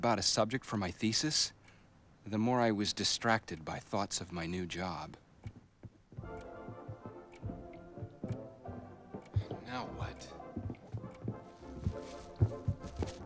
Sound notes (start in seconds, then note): 7.4 <i> thumping</i>